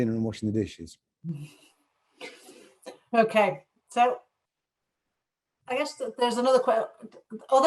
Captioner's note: chuckles